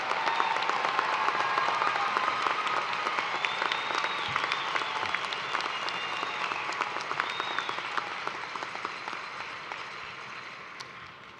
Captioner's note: cheers and applause